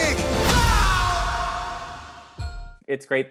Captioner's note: yelling